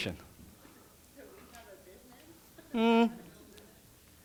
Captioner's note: laughs